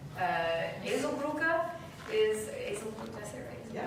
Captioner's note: speaking German